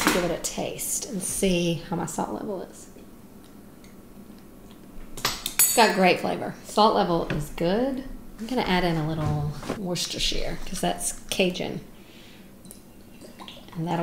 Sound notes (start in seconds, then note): 5.3 clinking; 12.9 plopping